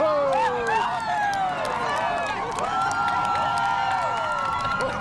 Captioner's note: distant rumbling